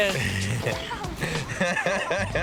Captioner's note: laughter